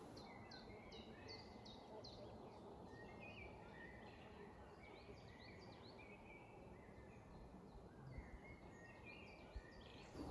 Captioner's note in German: Naturgeräusche, singende Vögel